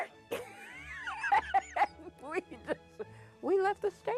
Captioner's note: laughs